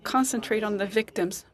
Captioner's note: speaking French